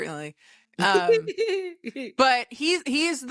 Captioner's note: laughing